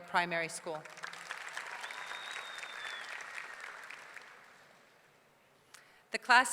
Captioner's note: audience clapping; audience cheering